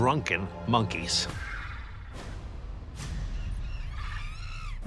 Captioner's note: tense music; monkeys screaming